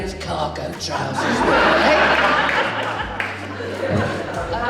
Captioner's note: audience Laughs